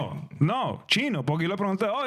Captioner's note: speaking In Foreign Language